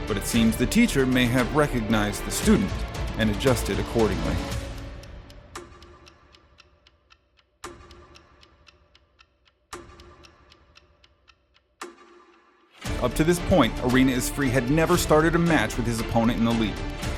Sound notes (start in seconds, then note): 5.3 syncopated clock ticking